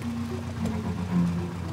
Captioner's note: door opens